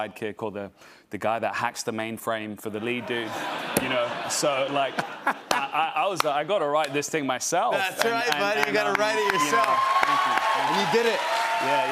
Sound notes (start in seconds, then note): 2.9 laughter